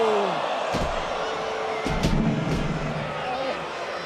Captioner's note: crowd boos